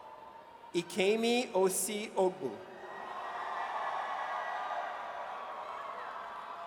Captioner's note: audience cheers